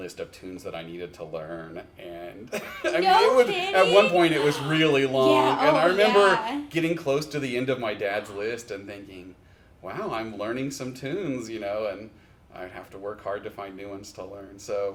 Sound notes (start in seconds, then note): 2.6 laughs